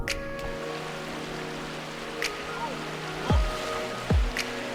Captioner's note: water rushing